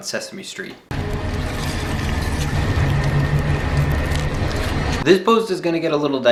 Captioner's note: ominous music; skin crackling